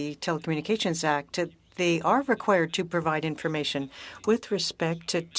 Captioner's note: speaking French